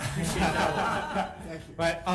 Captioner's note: all chuckling